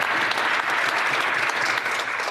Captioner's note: applause